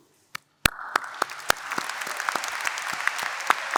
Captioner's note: applause